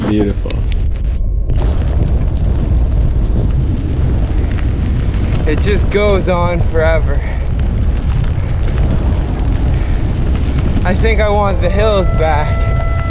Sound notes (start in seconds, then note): 2.2 bike tyres on pavement